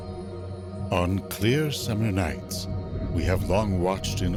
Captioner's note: voiceover